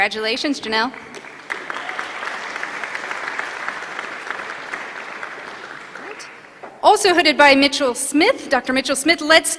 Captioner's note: applause